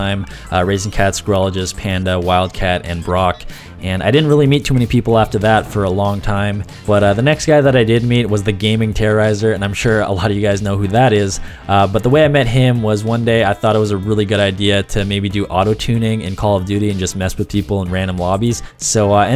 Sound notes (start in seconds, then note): 15.7 autotune